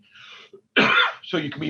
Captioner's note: coughs